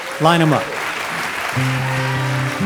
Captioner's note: audience clapping; wistful guitar music